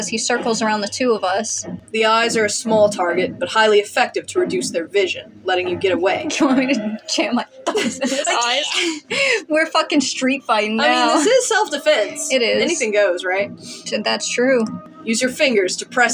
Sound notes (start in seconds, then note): 4.0 giggling; 8.3 chuckle